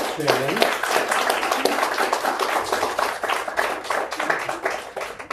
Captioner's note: applause